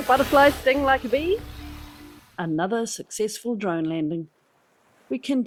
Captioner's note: drone humming